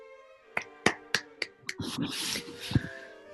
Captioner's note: applauding